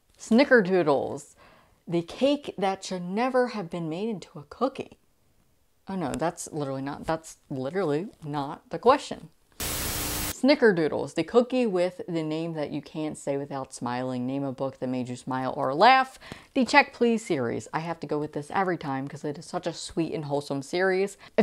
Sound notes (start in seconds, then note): 9.5 Static